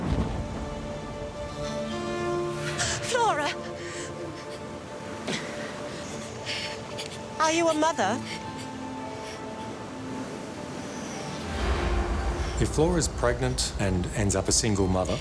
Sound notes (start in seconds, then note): 5.3 gasps; 6.3 Flora crying